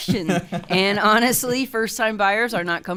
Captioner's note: laughs